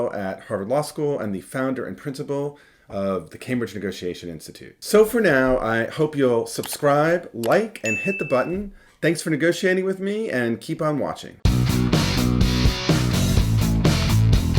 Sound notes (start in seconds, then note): 6.6 clicking; 7.8 dings; 11.4 upbeat music